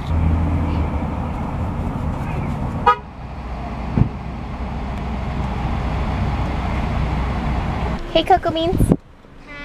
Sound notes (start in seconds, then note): 2.8 car honking